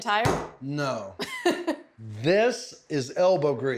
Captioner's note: laughs